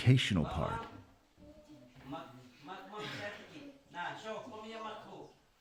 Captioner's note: teacher speaking in Yanomami